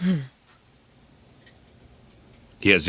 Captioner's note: none